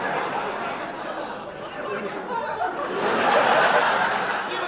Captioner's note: big audience laugh